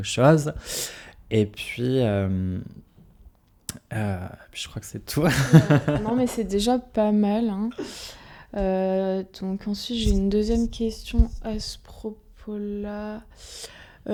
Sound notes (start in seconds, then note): 5.2 laughs